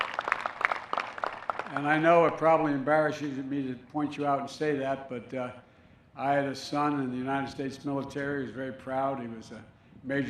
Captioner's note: applause